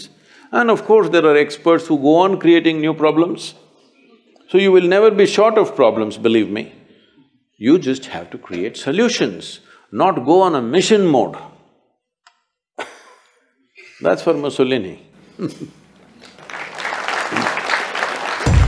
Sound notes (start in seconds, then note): 12.9 chuckles; 16.1 applause